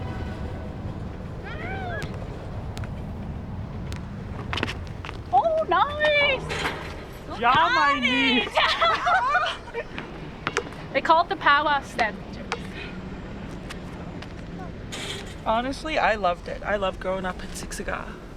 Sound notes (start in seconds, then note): 1.8 players shout